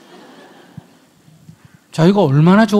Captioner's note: audience laughs